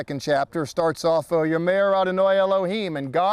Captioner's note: speaking in Hebrew